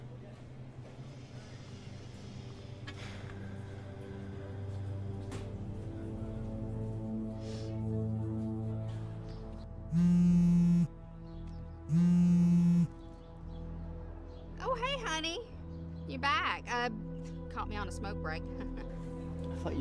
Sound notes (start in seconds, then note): 1.7 sighs; 7.1 suspenseful music; 10.2 phone buzzing; 19.0 chuckles